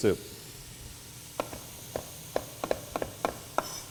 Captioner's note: chopping sounds